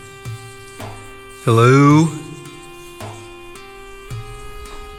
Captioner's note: echo